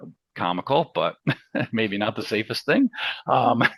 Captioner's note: laughs